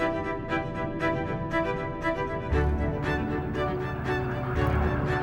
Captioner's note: water rushing